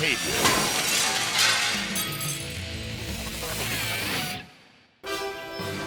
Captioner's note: glass clattering; energetic rock music